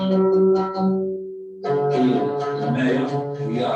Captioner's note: non-english speech